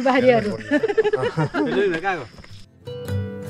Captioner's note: laughter